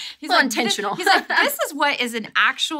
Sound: laughs

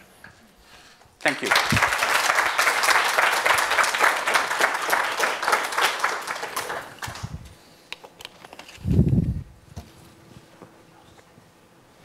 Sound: applause

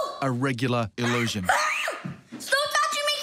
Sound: child screaming

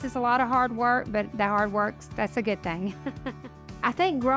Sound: laughs

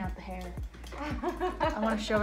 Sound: laughing

